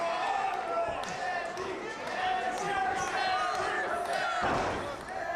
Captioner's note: crowd chants